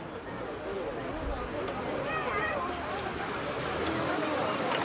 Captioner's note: background chatter